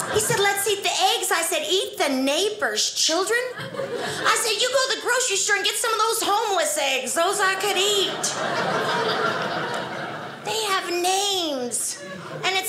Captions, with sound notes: He said, "Let's eat the eggs." I said, eat the neighbors' children? I said, you go to the grocery store and get some of those homeless eggs, those I can eat. (audience laughing) They have names.